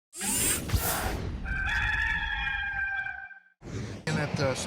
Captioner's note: rooster crowing